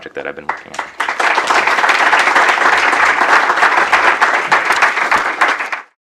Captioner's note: applause